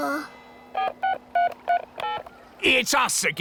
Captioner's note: dialing